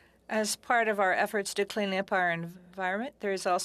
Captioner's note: speaking French